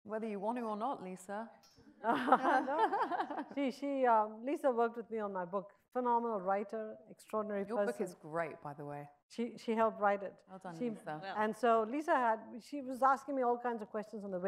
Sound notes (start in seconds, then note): 2.1 audience chuckles